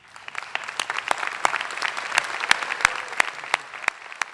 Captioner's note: applause